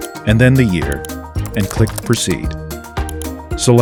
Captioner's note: keyboard typing; mouse click; mouse click